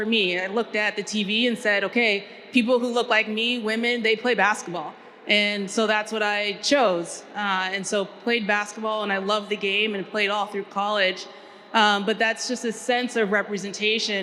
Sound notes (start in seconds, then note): none